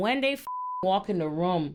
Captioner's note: beep